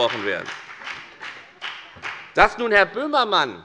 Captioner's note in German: Beifall bei der FDP